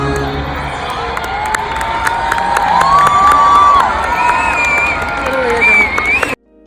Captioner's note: clapping and shouting